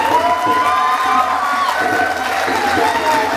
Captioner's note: ovation